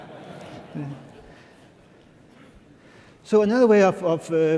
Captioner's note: laughter